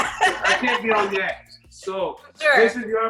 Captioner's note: laughs